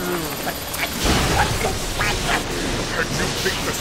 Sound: sputtering

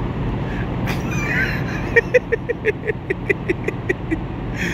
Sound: laughs

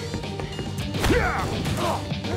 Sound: grunting

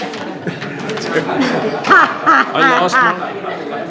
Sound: all laughing

